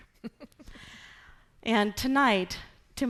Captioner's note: laughing